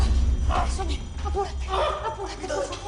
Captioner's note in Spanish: Quejidos